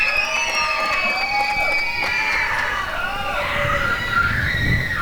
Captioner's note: applause and cheering